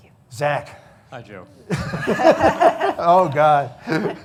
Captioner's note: laughing